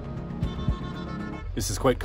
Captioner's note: truck horn